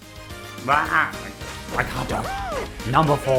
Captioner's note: groans